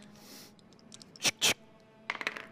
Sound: loads gun

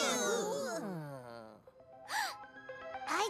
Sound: gasps

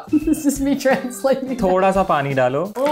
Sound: laughing; speaking in Hindi

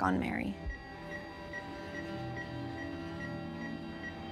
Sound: rapid beeping; ominous music

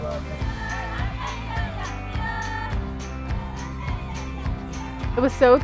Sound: chanting and shouting

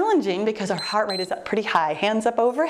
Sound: timer beeps

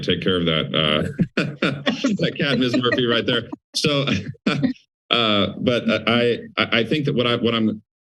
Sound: laughing

